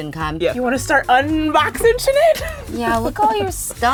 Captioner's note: chuckles